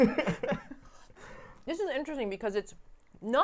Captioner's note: chuckling